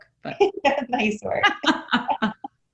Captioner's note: laughing